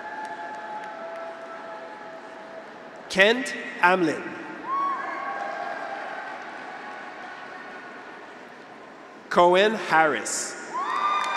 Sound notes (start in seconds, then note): 0.0 graduates cheer; 0.0 audience applauds; 4.6 graduates cheer; 5.2 audience applauds; 10.5 graduates cheer; 10.8 audience applauds